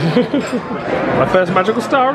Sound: laughs

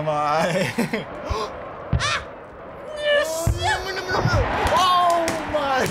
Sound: gasps; yells; laughs

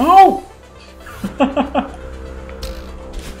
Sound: chuckles

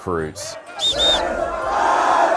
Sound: whistle sounds

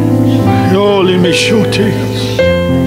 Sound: speaking in tongues

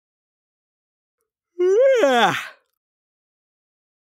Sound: sound of yawn

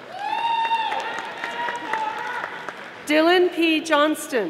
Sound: audience applauding

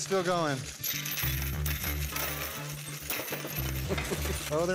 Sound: coins clanging

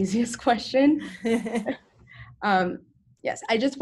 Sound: chuckles

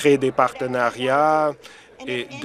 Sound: none

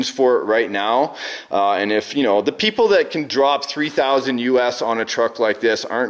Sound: none

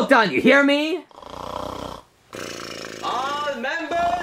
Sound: Mario snoring

